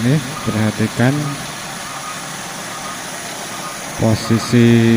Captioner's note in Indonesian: suara mesin